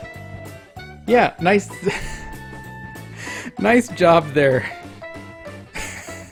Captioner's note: starts to break into laughter; laughs